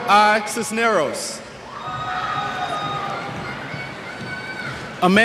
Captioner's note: cheers